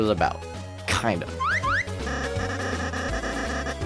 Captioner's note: Lancer whistles